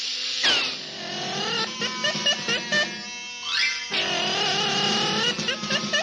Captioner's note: moth buzzing triumphantly; rhythmic drumming